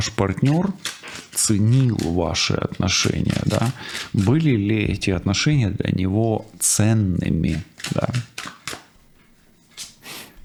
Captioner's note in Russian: фыркает